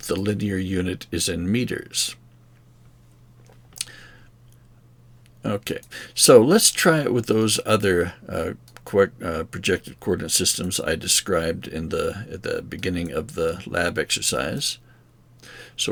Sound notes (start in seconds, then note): 2.4 silence